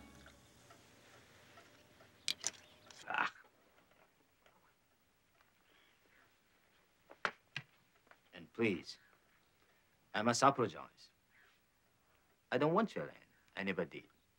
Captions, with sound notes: (Pop snarls) - And please, I must apologize. I don't want your land, I never did.